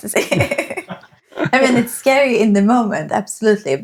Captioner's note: laughing